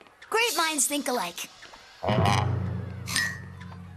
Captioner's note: sighs